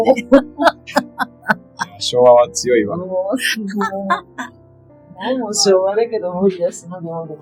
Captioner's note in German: lacht